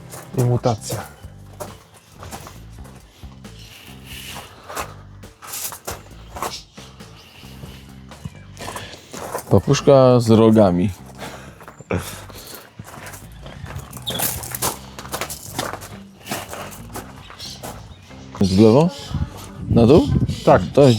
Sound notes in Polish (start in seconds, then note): 12.7 parsknięcie